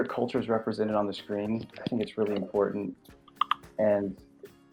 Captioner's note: earphones clattering